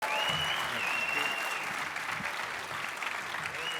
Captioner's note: audience cheers